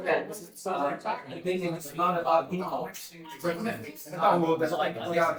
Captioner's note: people chattering